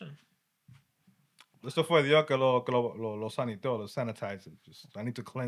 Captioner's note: non-english Speech